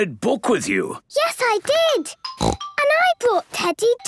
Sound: snorts

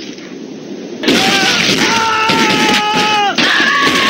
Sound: blood splahing; screaming

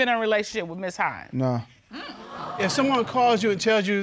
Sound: audience exclaiming

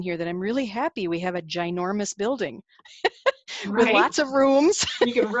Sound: laughing

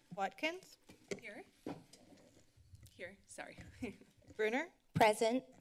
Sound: giggles

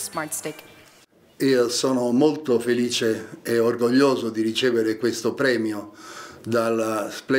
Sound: in Italian

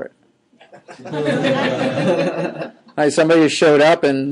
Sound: students laughing

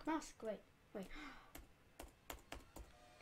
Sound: gasp

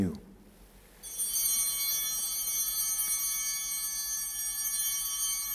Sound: altar bell ringing

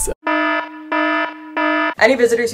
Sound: blaring Alarms

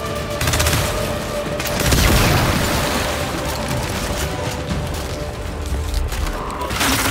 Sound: gunfire

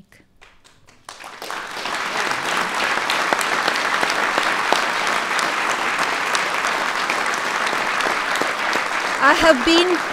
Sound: applause

